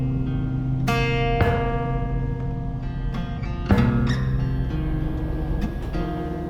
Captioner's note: metallic hammering